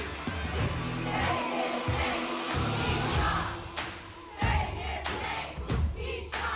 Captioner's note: crowd